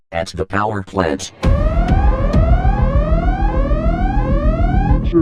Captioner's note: alarm